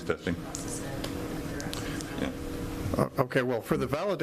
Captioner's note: speaking faintly